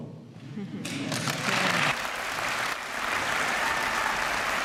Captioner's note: applause